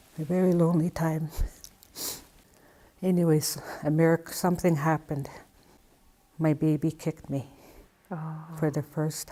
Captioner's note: ohhh